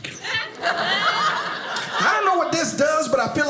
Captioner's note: audience laughing